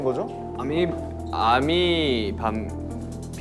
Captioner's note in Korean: 더듬더듬